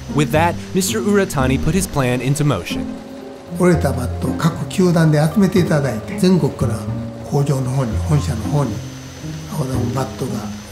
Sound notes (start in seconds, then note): 3.5 speaking in foreign language